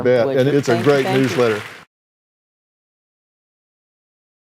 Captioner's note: applause